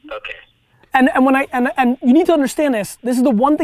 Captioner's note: stammering